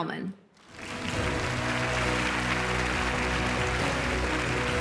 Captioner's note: audience applauds; uplifting music